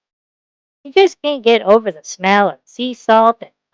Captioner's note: sarcastically